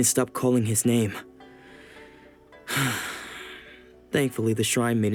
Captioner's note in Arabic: يتنهد